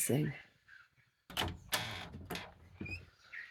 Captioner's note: door latch